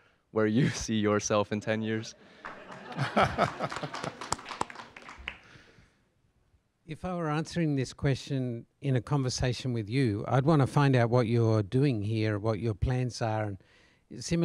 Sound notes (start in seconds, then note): 1.9 laugh; 2.3 applause